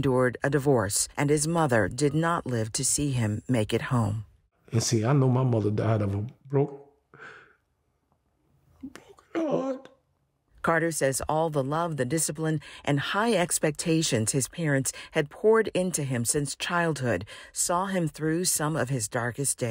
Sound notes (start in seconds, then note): 8.8 sobbing